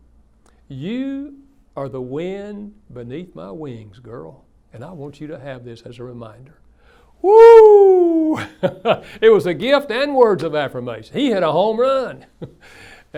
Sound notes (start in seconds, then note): 7.8 laughs; 7.9 cheers; 12.5 laughs